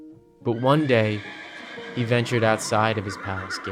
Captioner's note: horses neigh